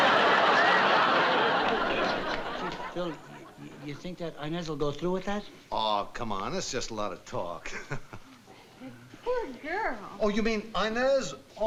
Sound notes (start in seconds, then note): 7.6 chuckles